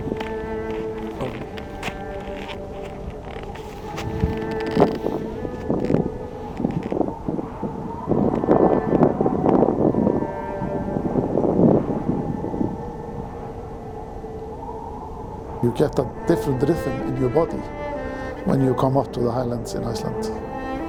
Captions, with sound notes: (majestic music) (wind howling) You get a different rhythm in your body when you come up to the highlands in Iceland.